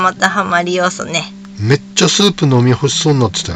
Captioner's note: laughs